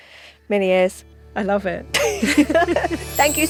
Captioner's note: magical music; both laugh